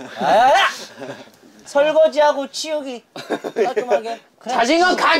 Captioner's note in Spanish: Jajaja